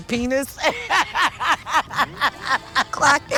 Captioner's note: laughs